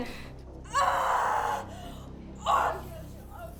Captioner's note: Belle screaming